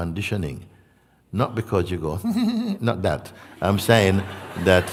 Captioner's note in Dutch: giechelt verlegen